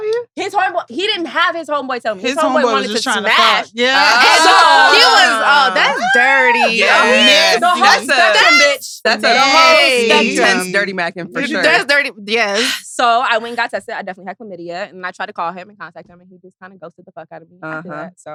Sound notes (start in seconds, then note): 3.9 all laughing